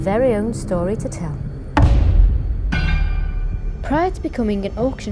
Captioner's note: gavel strikes